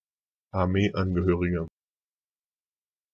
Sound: fast Pronunciation

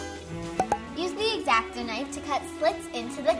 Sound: pop

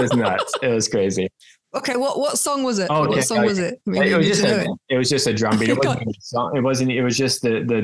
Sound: laughs

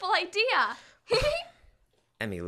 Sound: giggles

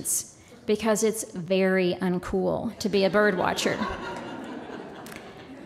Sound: laughter

